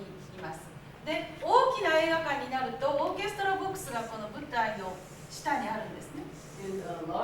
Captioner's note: speaking Japanes